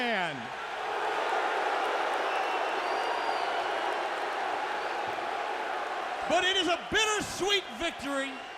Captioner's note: crowd cheering